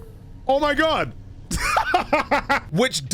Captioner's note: laughing